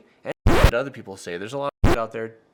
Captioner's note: record scratching